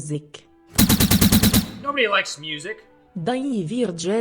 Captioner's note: gunfire